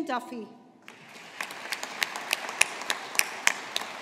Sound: audience applauding

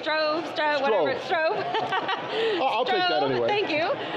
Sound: laughing

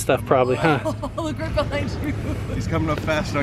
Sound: laughs

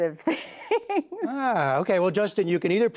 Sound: laughter

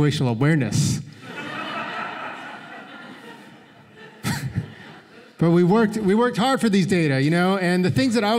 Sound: laughter

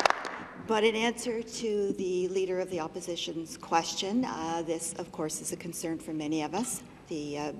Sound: applause

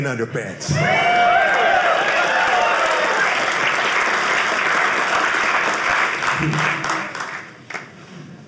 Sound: audience cheering

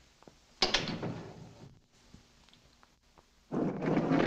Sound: door thuds shut

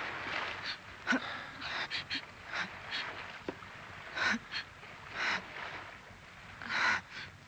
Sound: sobs

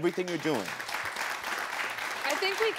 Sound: audience clapping

